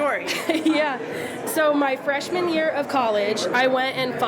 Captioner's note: laughs